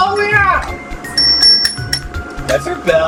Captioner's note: bell dings